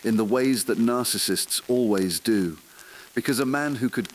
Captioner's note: exhale